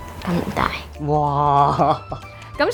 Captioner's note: laughing